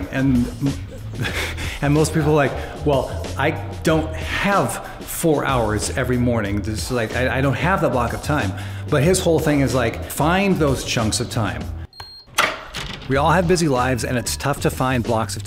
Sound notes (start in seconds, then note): 11.9 beep